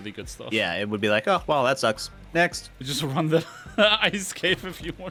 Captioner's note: laughs